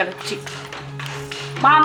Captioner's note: steady clacking sound